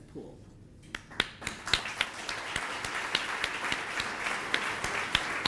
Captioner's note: audience applauding